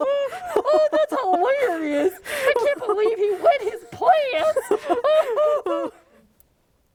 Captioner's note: laughing